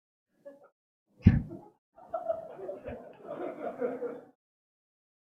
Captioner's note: audience laughing